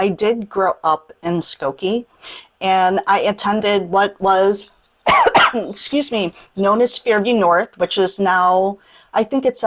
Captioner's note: coughs